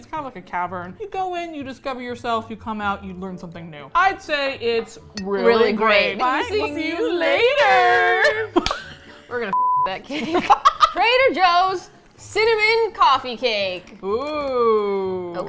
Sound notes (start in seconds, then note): 6.8 cheerfully; 8.0 both laugh